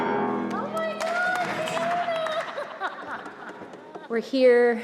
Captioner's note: crew clapping; laughs